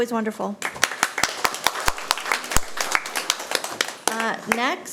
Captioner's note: audience applauding